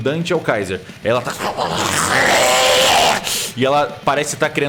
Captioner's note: monster grunt